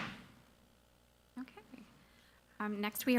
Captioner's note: gavel pounds